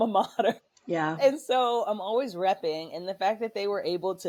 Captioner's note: laughter